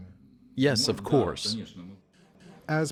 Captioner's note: through translator